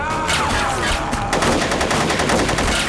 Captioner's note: roars